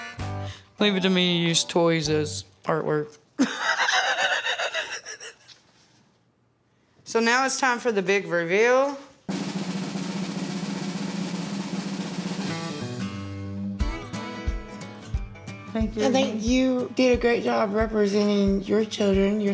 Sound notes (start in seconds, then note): 3.4 laughs; 9.2 drumroll